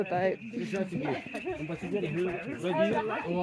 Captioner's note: background chatter; crickets chirping